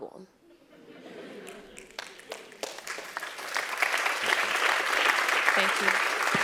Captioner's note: laugh; applause